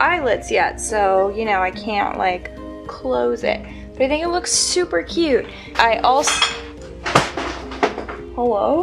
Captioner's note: suspicious series of thuds